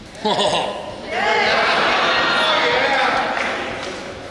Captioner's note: cheering